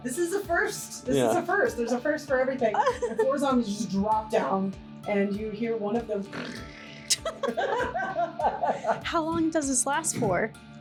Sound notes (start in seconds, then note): 6.3 snoring; 6.3 laughing